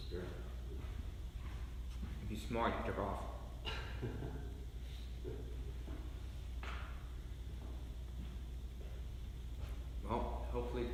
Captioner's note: laughs